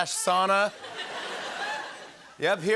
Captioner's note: laughter